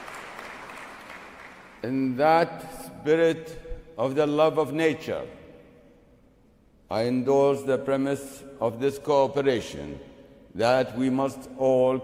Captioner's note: applause